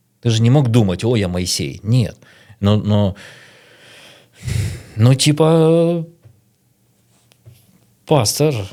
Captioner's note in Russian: вздыхает